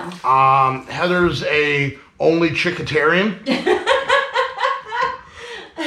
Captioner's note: laughing